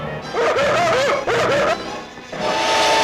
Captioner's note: yelling; dramatic music